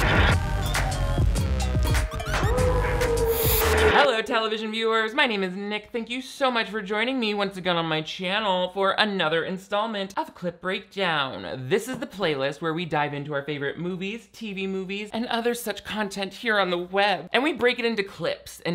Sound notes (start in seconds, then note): 0.0 upbeat music; 2.2 wolf howls